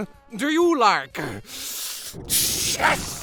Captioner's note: inhale